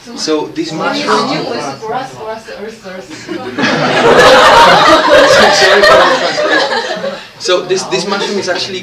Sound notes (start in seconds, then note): 3.6 voice from audience; 6.1 laughter